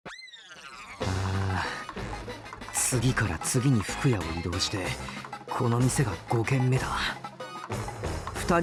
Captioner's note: sigh